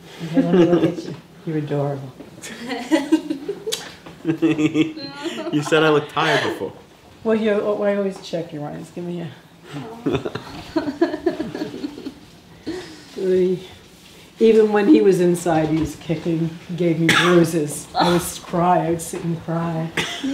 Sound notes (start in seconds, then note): 0.3 laughing; 2.5 laughing; 3.7 smooch; 10.0 all laughing